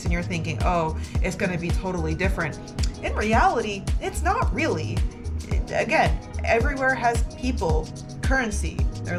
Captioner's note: lip smack